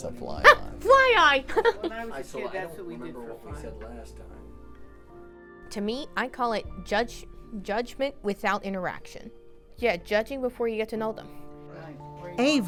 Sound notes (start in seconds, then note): 1.5 chuckles; 2.3 background chattering